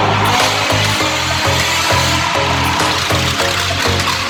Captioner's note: engine roaring